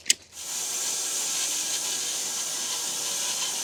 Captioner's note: saw buzzing